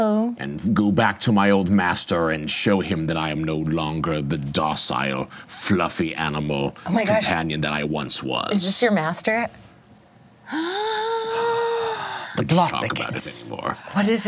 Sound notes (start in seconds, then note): 10.5 gasps